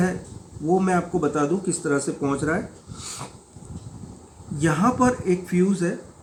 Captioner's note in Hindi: नाक से की जाने वाली आवाज़